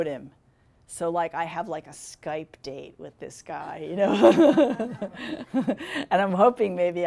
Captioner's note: laughing